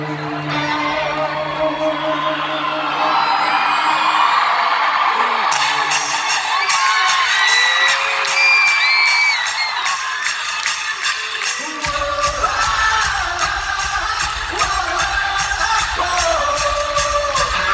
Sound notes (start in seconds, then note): 0.0 electric guitar chord; 1.9 crowd cheering